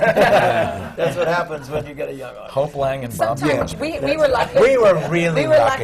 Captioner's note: laughter